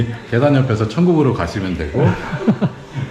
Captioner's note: laughs